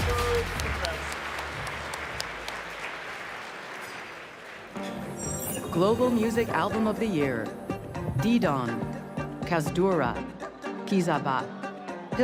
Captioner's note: cheering and applause